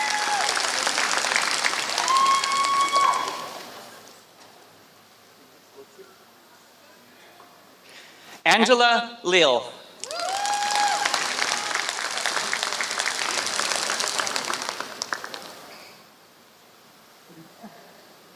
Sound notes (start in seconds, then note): 3.1 applause; 10.0 applause